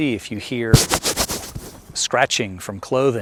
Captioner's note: hand scratching